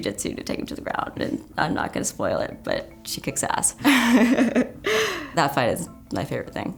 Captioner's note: laughs